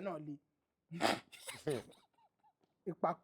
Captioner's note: laughs